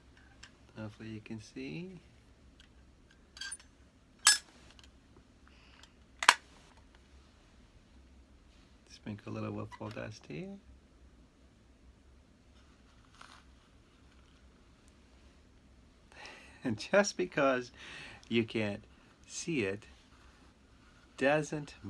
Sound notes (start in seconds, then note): 0.1 speaking softly; 6.2 metal snaps; 8.8 speaking softly; 16.2 chuckle